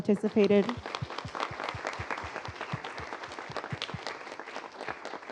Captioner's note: applause